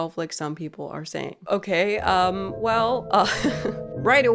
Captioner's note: laughs